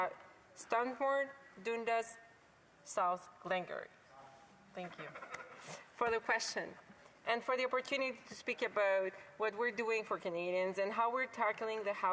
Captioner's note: speaking French